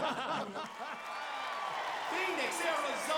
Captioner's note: audience cheering